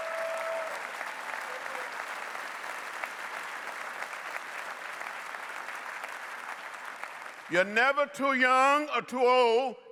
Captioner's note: applause